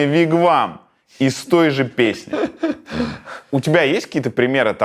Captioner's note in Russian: смеётся